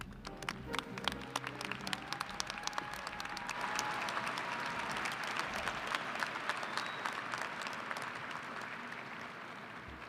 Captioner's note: applause & cheering